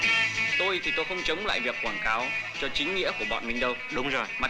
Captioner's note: Malay spoken audio